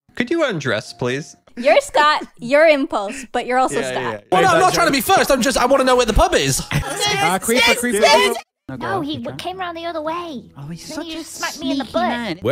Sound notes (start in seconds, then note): 6.8 Everyone shouting Skizz’s name in panic